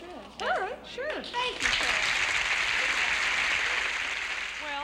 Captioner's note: applause